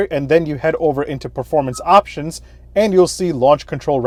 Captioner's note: notification beeps